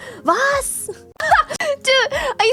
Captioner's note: laughs